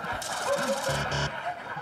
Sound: laughter; buzzer

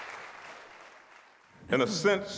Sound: applause

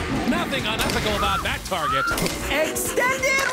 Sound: screaming child

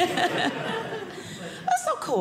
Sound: audience laughing

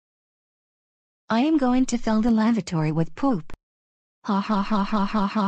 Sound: laughs

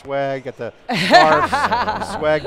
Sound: laughter

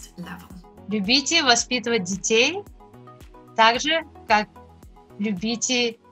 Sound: speaking in foreign language

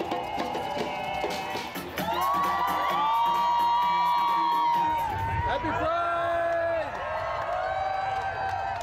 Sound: cheers and Applause

